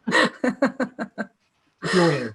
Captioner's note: laughter